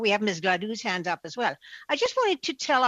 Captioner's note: speaking French